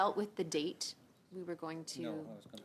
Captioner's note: speaking French